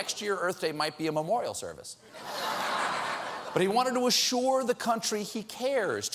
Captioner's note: audience reacts